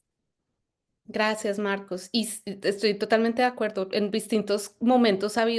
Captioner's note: speaking Spanish